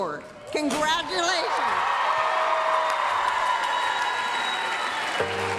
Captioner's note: applause, cheering